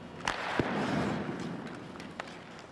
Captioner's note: stick slaps puck